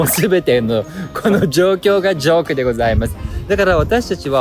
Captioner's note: laughs; laughs